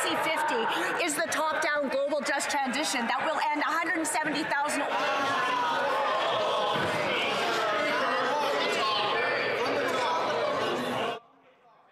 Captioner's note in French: voix de l'interprète